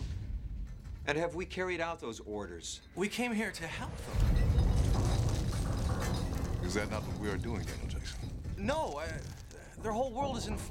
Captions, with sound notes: AND HAVE WE CARRIED OUT THOSE ORDERS? WE CAME HERE TO HELP THEM! [EXPLOSION] IS THAT NOT WHAT WE ARE DOING, DANIEL JACKSON? NO, THEIR WHOLE WORLD IS IN FLAMES